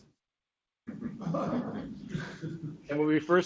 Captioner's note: students chuckle